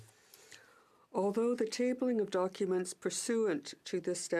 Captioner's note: speaking French